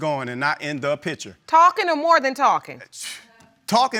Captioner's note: scoffs